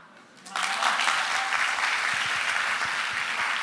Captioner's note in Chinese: 掌聲